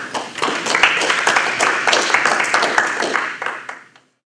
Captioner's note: applause